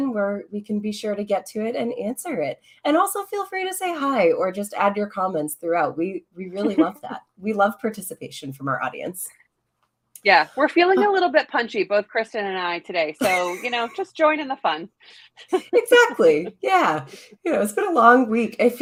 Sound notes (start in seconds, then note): 13.2 laughs